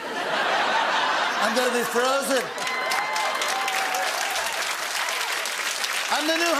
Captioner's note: laughter; cheering and applause